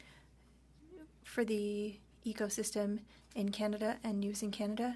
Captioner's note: speaking French